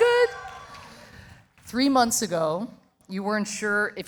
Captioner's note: audience applauding